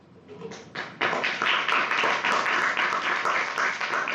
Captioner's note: clapping